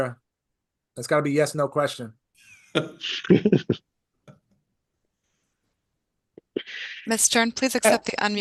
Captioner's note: laughter